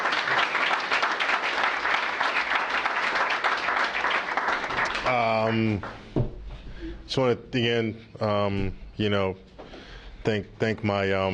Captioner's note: applause